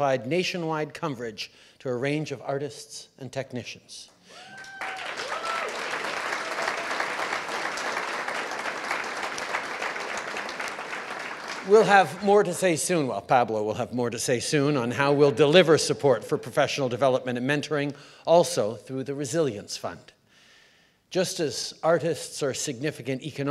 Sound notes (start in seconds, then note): 4.3 cheers & applause